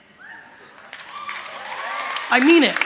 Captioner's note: applause